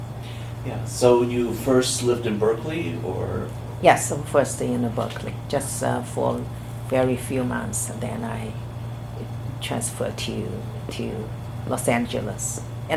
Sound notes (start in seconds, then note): none